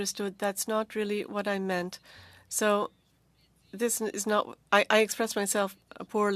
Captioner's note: speaking French